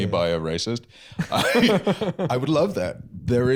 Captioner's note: laughs